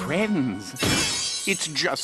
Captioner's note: poof